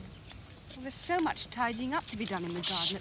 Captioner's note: horse galloping